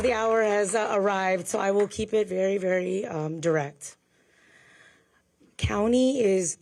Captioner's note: applause